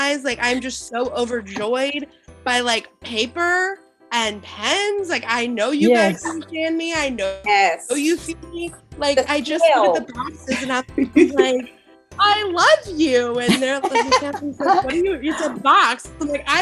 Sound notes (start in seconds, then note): 10.7 chattering